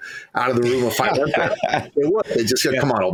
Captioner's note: laughing